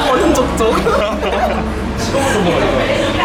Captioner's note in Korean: ㅎㅎㅎ, ㅎㅎㅎ